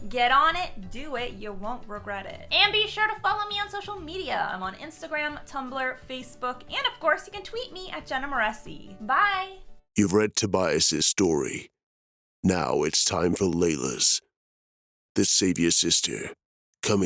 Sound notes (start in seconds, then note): 9.1 foreboding Male Voice